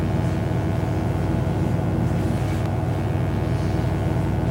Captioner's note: electric buzzing